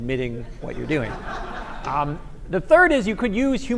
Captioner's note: laughter